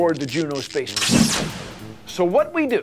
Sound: zapping and explosion sounds

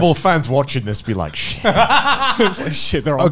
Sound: laughing

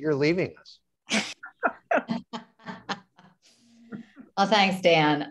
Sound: laugh

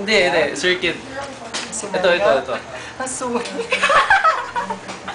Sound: giggling, Laughing

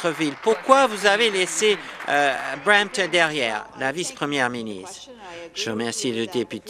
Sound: applause

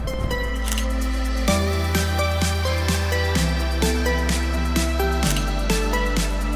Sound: camera beeps and clicks; camera beeps and clicks

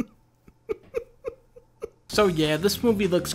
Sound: laughs

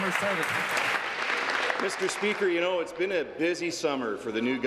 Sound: applause

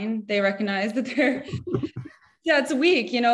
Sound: both chuckle

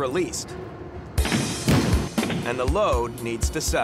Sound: loud thuds

